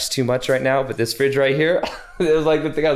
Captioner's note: chuckles